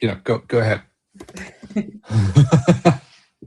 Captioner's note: laughter